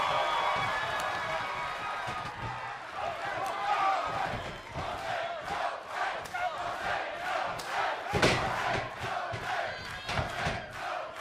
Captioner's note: cheers and applause